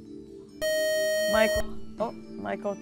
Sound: buzzer

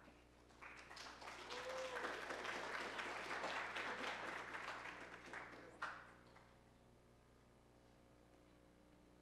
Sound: applause

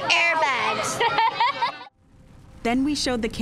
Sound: laughter

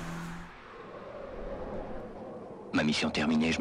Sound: wind whooshing; person speaking in French

